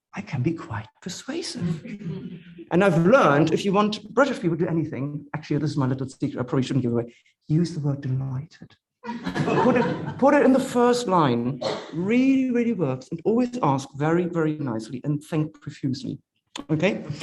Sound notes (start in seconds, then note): 9.0 audience members laughing